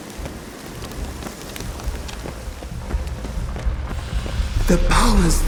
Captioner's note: faint heartbeat